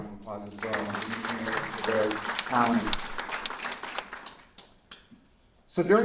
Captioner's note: applause